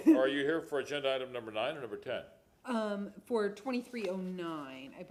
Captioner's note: laughter